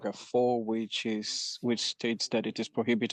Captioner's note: speaking French